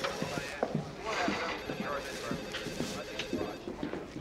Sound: phone ringing

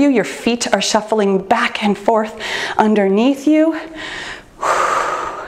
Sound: exhales

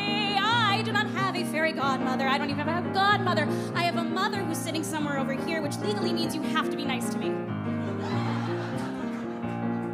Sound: audience laughs

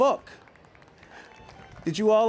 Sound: applause

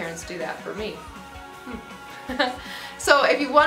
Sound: laughs

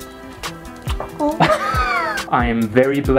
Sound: laughter

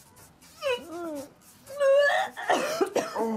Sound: both gagging; Maggie vomits

